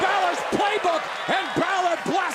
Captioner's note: crowd chatter